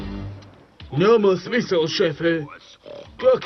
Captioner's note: snorts